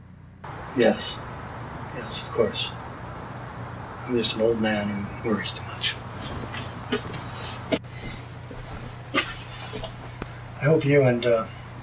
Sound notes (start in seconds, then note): none